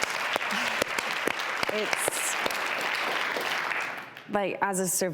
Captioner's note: applause